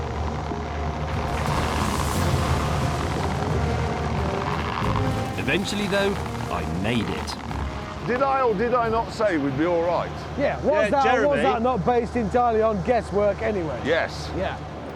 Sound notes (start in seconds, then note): 1.2 creaking continues